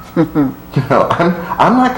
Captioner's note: chuckles